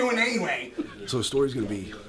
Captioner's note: laughter